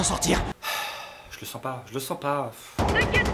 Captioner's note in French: soupirs